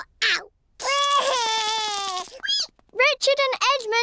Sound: cries

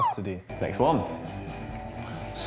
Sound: police siren

